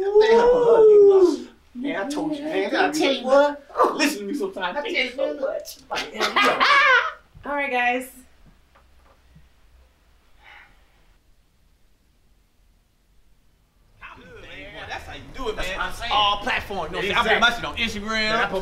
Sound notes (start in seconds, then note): 0.0 exclaims excitedly; 5.9 laughing; 10.4 sighs